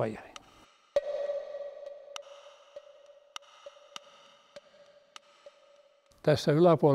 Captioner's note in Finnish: Tikittävää ääntä